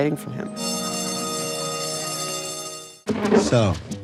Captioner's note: school bell rings